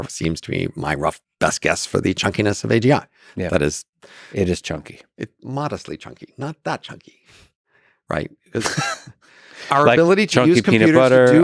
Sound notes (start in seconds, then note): 8.6 Lex laughs